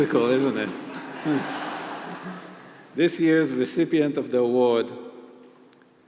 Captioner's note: laugh